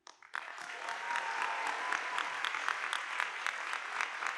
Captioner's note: audience applauding